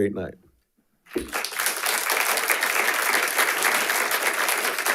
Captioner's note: audience applauding